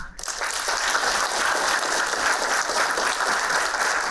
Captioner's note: applauding